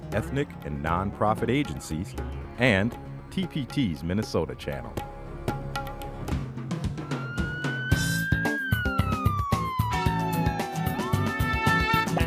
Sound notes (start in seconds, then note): 6.9 a siren wails